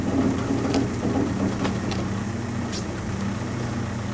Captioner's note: log clattering